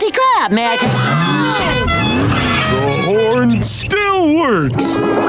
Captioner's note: horn honking